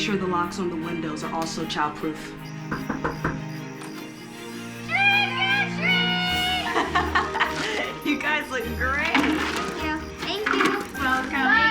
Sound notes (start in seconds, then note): 6.2 laughing